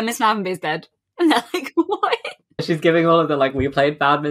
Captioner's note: laughing